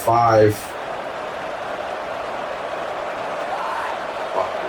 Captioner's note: crowd Noises